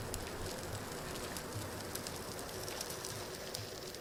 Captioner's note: wheels rattling